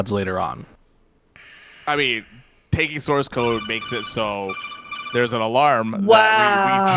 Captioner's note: alarm ringing